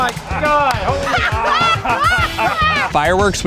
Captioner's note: laughing